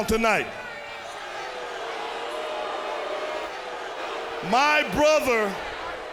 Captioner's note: crowd cheering